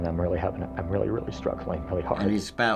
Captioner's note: choked up